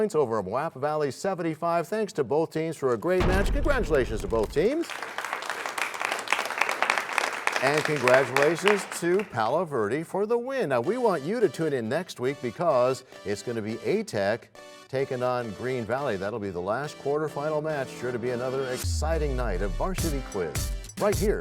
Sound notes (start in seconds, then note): 6.7 applause